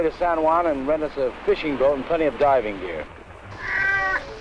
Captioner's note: Pete meowing